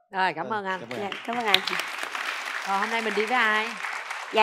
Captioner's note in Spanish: Aplaudir